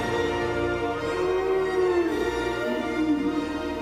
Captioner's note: sfx: dinosaur sound